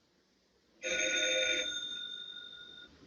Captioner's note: phone Rings